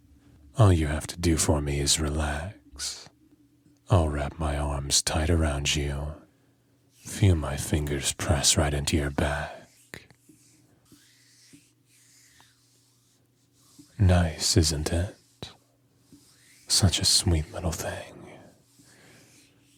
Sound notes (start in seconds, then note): 10.5 hand noises